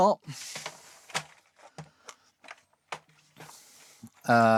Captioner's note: keyboard Clattering